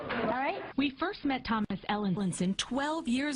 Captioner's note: voiceover